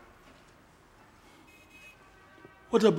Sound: horns honking

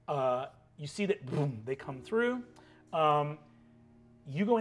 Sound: imitates magic whirring

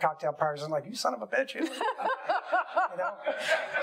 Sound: laughing

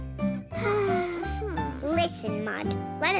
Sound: sigh

